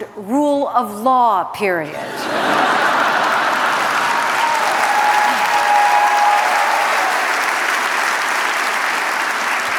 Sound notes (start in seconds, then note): 2.1 laughter, applause